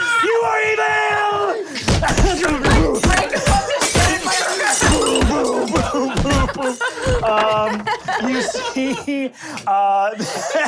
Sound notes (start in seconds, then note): 1.8 punching and breaking glass; 7.0 laughing